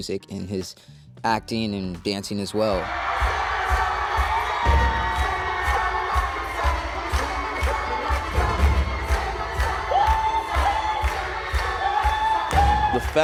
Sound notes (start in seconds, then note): 2.6 crowd cheering; 3.4 upbeat music